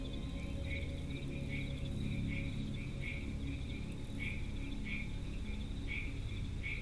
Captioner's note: nocturnal animal sounds; dramatic music